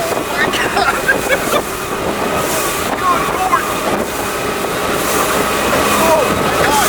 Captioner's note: laughing